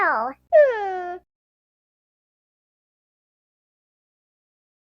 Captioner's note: crying